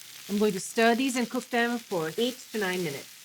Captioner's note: sizzling